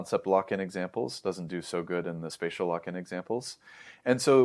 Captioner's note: inhales